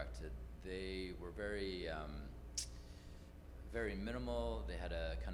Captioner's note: inhales